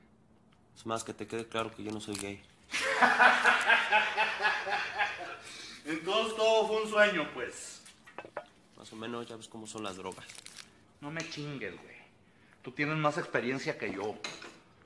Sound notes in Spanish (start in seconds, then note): 2.7 laughing